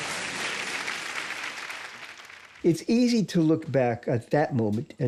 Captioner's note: applause